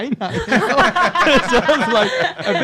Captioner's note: everyone laughs